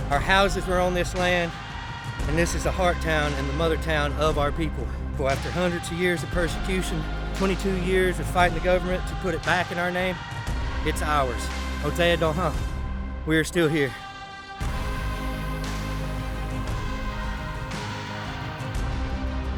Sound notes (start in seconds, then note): 12.2 speaking Cherokee; 16.5 upbeat music playing